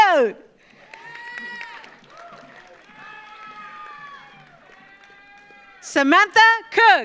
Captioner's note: audience applauds; audience cheers